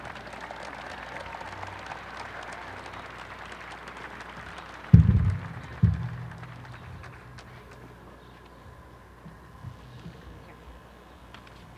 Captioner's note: applause